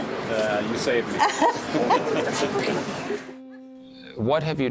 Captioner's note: laughing